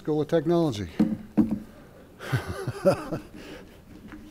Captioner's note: laughs